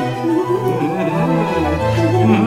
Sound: giggling

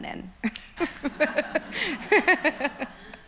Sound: laughs

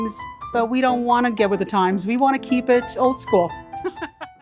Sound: laughs

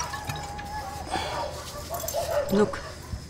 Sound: sighs

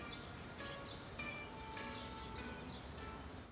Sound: birds chirping

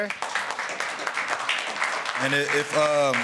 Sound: applause

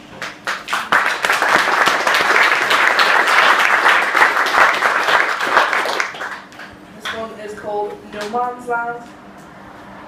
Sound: clapping

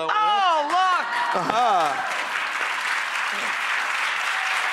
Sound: audience cheering

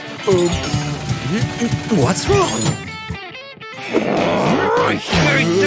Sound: making frustrated sounds

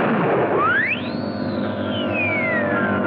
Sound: loud whistle

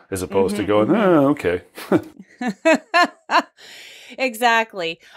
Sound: laughter

